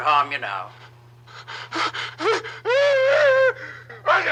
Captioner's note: Barney wailing